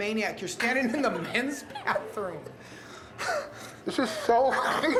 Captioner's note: laughing